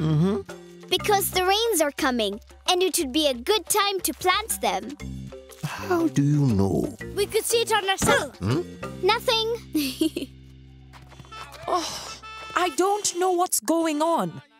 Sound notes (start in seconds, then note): 9.8 chuckling; 10.2 vehicles honking